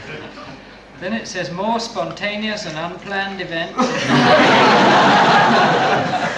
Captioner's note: laughter